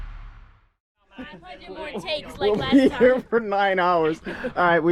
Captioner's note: family Laughing